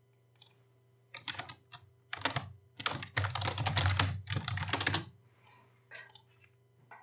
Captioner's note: typing